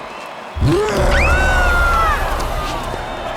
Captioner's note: screaming